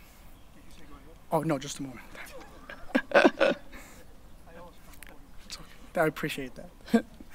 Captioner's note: laughing